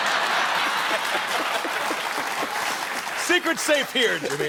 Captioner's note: laughter